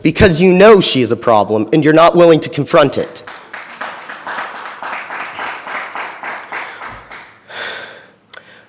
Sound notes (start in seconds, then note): 2.9 attendees clapping